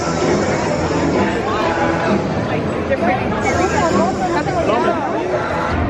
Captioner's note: upbeat music; people chattering